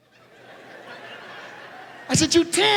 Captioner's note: audience laughs